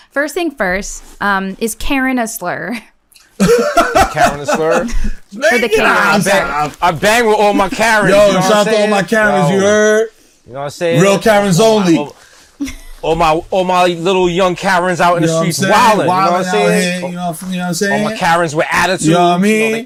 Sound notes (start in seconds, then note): 3.3 laughs